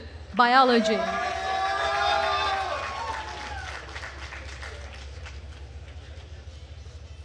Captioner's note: attendees cheering and applauding